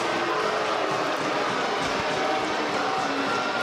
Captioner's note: crowd cheering